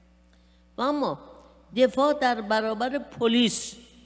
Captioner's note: speaking persian